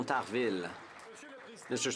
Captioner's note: some Applause